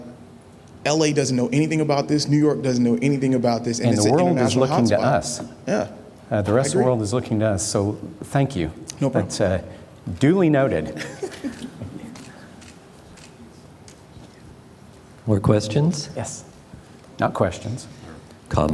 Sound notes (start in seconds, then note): 10.9 laughter